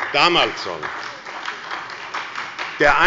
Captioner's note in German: Beifall bei der SPD